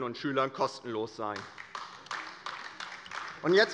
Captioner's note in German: Beifall bei der LINKEN